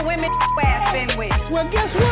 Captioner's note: beeping